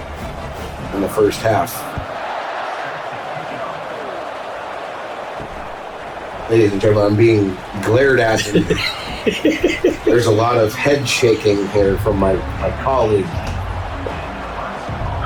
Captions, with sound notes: [Crowd Noises] In the first half. [Crowd Noises] Ladies and gentlemen, I'm being glared at. [LAUGH] There's a lot of head shaking here from my colleague.